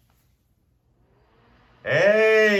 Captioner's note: fan spins up